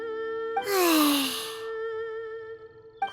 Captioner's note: sigh